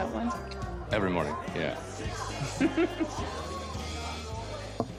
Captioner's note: both chuckle